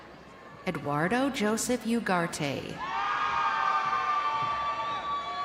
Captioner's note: crowd cheering